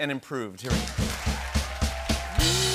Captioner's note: cheering and applause